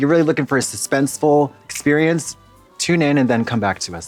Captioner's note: snaps